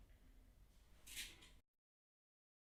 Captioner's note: chair squeaking